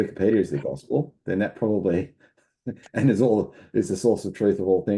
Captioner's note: chuckles